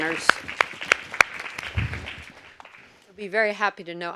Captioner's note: audience applause